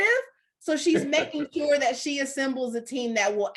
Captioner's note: laughing